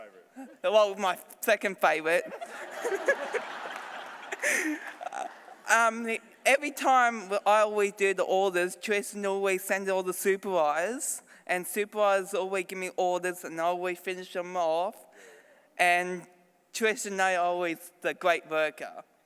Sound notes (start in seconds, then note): 2.2 laughter